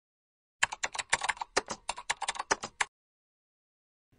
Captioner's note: Natyskannja klaviš